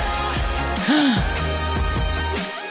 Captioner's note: gasp